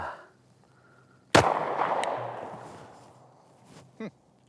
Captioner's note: gun bangs